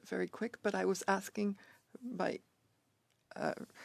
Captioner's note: speaking French